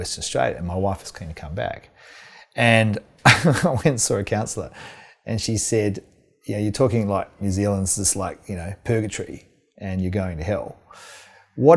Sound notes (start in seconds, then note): 3.2 laughing